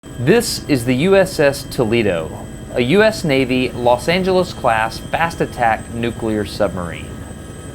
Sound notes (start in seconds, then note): 0.9 narrating